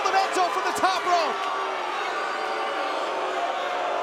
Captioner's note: crowd cheering